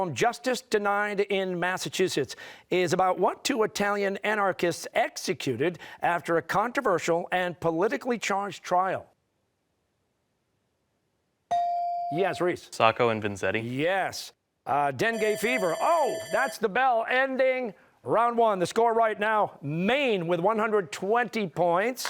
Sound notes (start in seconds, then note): 15.1 bell ringing